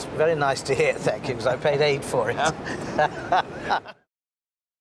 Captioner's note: both laugh